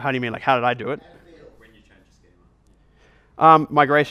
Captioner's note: voiceover